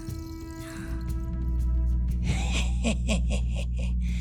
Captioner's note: laughing